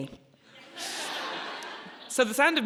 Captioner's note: audience laughing